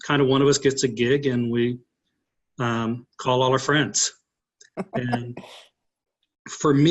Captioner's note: laughing